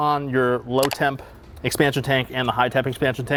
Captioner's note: picture clicks